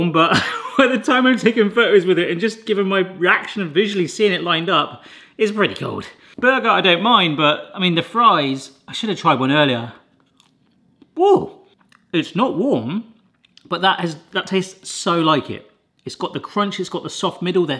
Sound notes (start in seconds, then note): 0.3 laughs; 10.9 munching